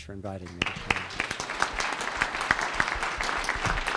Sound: applause

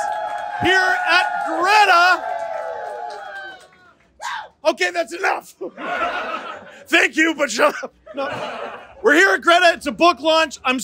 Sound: fans cheering

